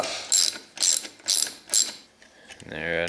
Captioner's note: screw screeching